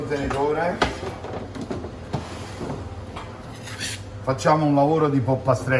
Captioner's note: speaking in foreign language